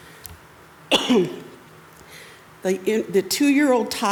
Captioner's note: coughs